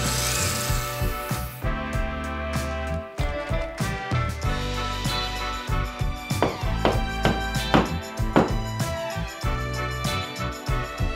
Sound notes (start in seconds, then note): 0.1 drill whirring; 6.7 hammer tapping